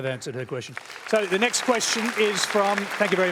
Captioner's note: applause